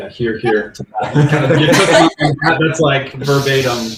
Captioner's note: laughing